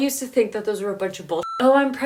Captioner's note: beep